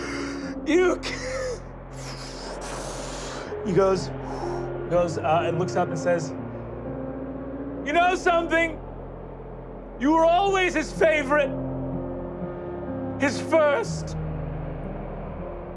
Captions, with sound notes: (crying) You killed- (blowing) He goes, and looks up and says, You know something? You were always his favorite! His first.